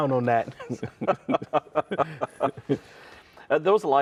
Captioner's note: laughing